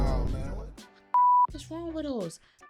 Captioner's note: beep